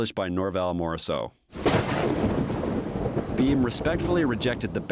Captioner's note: thunder clapping